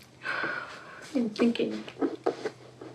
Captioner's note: exhales